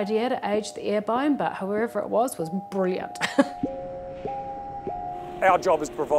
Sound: chuckles

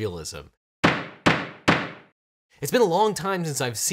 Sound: gavel banging

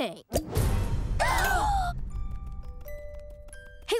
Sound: gasping

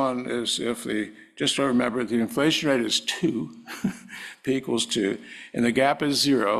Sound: laugh

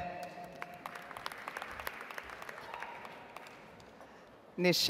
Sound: audience applauds

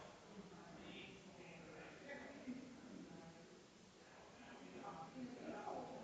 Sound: people chattering distantly continues

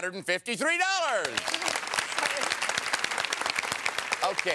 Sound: applause

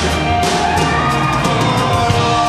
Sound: audience cheers

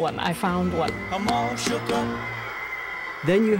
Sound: teen screaming

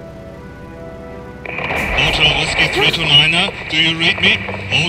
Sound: radio; crackle

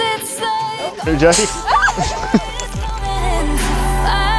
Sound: laughing

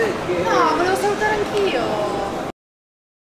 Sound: girl background voice

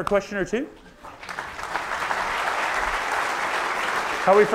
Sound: audience applauds

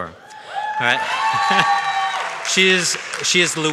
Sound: audience shouts and claps

